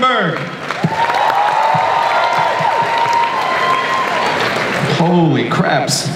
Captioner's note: audience cheers and applauds